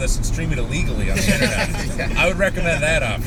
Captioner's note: laughter